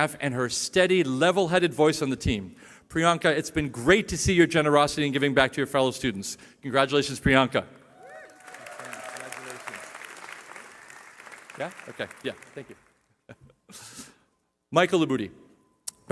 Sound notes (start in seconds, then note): 7.9 cheering